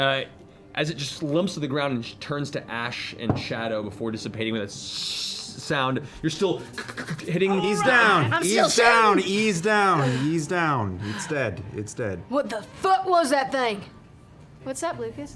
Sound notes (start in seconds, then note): 4.7 sizzling